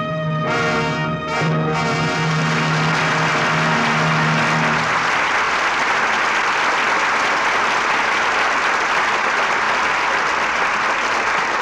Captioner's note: dramatic music; audience applauding